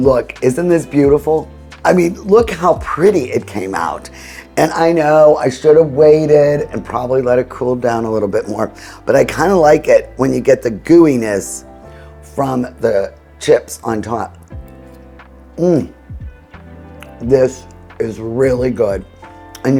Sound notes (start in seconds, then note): 0.0 soft music softens; 14.8 mouth smacking